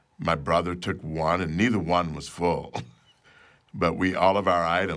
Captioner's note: chuckles